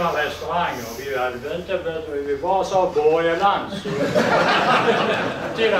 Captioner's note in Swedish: Skratt